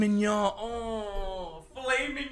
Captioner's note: erotic ASMR Moaning